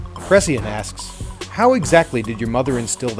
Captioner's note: voiceover